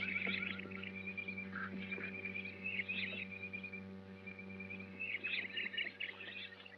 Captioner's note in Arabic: أجواء الغابة - زقزقة الطيور